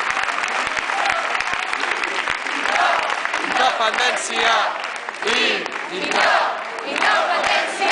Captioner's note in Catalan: aplaudiments